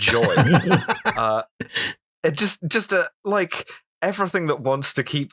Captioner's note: laughter